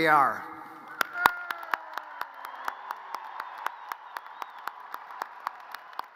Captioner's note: audience cheers and applause